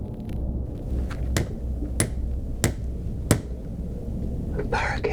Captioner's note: hammer pounding nails